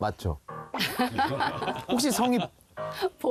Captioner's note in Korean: ㅎㅎㅎㅎㅎㅎㅎ